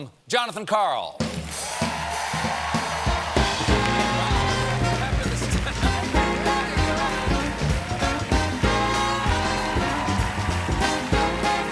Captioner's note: cheers and applause; band playing